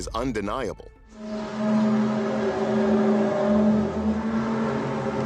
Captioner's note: groaning sound